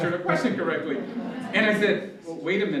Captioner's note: laughter